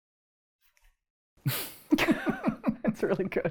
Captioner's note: both laugh